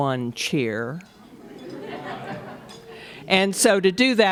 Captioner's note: laughter